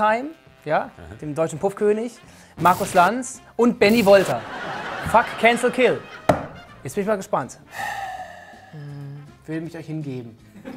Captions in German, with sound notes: Bert Wollersheim, dem deutschen Puff-König. Markus Lanz und Benni Wolter. Fuck, Cancel, Kill. Jetzt bin ich mal gespannt. (Seufzen) Hm ... Ich will mich euch hingeben.